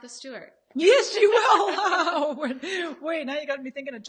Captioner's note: laughs